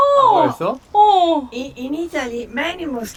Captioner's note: sounding excited